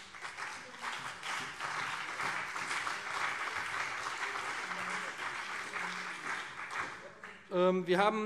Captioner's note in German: Beifall BÜNDNIS 90/DIE GRÜNEN und CDU